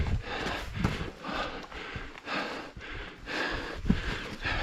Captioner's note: heavy panting